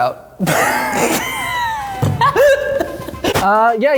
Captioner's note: laughs